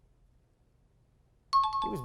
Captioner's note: high-pitched tones